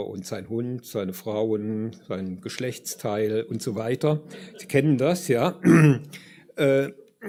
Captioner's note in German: räuspern